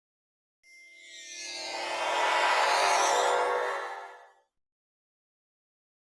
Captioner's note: teleporter noise